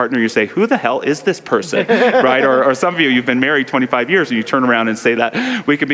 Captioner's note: laughter